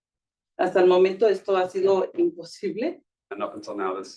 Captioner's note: speaking Spanish